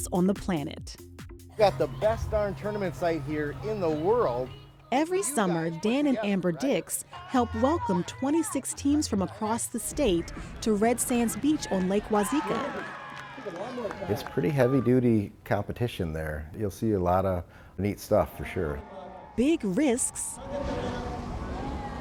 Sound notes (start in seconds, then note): 12.9 cheers and applause